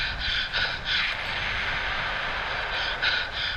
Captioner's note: tank Fire